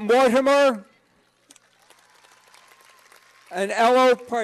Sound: cheers and applause

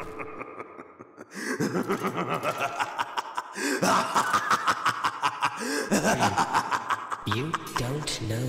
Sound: laughs maniacally

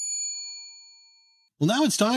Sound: bell dings

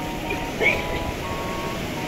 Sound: pukes

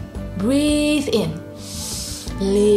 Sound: breathes in deeply

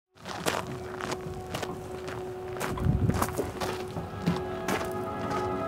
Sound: footsteps crunching; pensive music

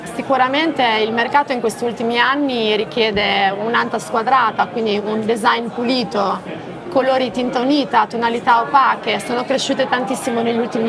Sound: speaks Italian

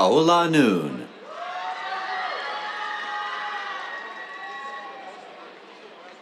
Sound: cheers, applause

